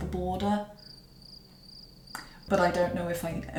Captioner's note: crickets of dread